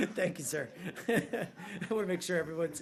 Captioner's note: laughter